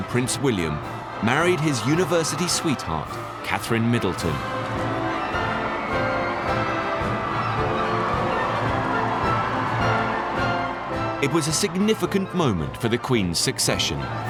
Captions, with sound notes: Prince William, married his university sweetheart, Katherine Middleton. (crowd cheering) (upbeat military music) It was a significant moment for the Queen's succession.